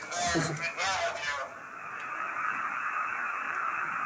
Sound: creepy voice

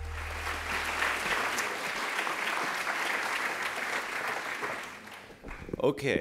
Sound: applause

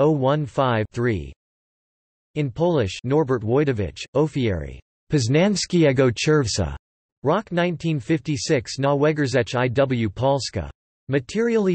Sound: in Polish

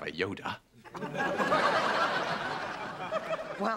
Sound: laughter

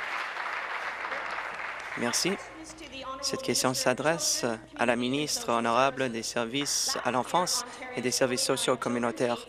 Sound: applause

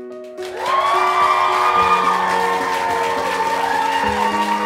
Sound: cheering and applauding

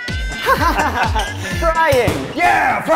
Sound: laughing

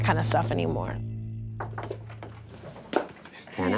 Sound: knocking

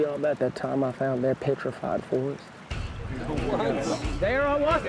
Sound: men laugh

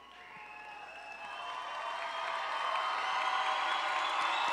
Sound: audience cheering

